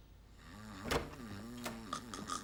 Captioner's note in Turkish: Kapı açılma sesi